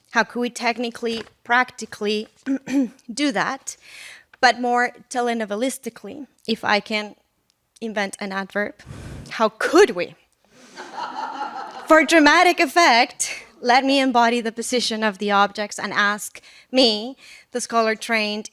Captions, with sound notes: How could we technically, practically do that? But more telenovelistically, if I can invent an adverb, (gasps in Spanish) how could we? (laughter) For dramatic effect, let me embody the position of the objects and ask me, the scholar trained